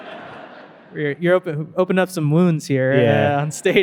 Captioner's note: audience laughing